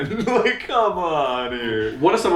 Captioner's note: laughs